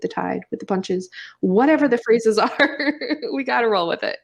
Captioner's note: laughs